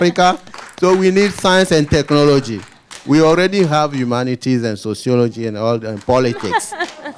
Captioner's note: applause